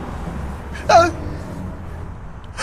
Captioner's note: yelp